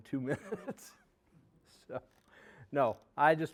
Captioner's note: laughing